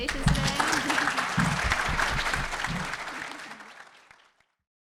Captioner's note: audience applauds